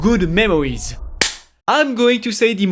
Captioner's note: clap